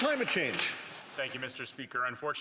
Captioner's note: some Applause